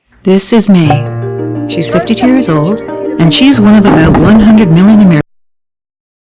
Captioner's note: static speaking